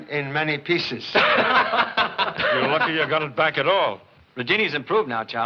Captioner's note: laughing